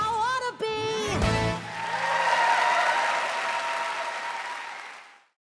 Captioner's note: cheers and applause